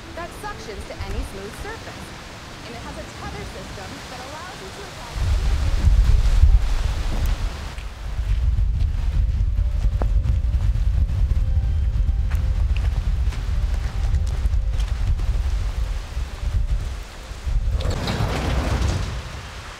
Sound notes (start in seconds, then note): 5.1 wind blowing; 17.8 door hinges squeaking